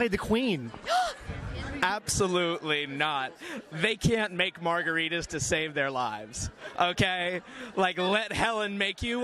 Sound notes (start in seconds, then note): 0.8 gasps